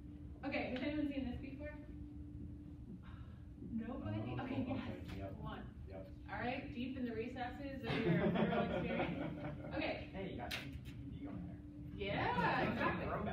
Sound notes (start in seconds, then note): 7.9 laughs